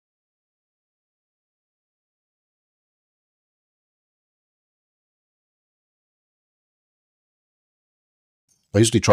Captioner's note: silence